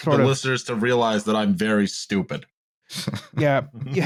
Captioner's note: chuckles